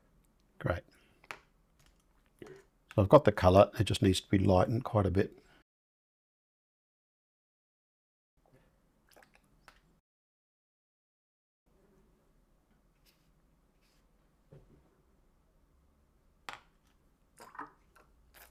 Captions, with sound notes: Great. I've got the colour. It just needs to be lightened quite a bit. [silence]